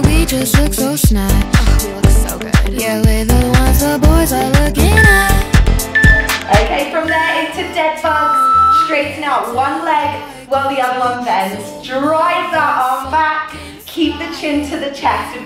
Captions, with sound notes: (timer beeping) Okay, from there into dead bugs, straighten out one leg while the other one bends, drive that arm back, keep the chin to the chest